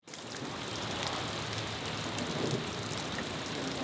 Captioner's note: rain falling